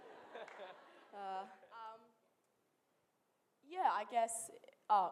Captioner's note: laughter